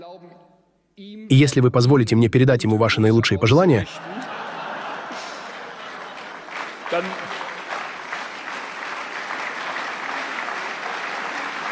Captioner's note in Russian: смех и аплодисменты